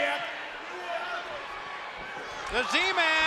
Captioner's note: spectators cheering